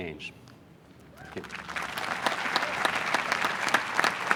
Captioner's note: applause